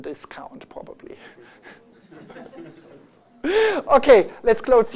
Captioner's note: laughter